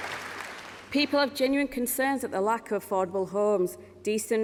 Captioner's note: applause